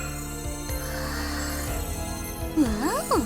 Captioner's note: awed gasp